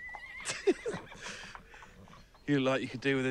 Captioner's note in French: des rires